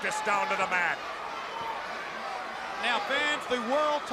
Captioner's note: crowd cheering